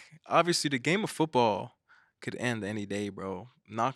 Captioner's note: none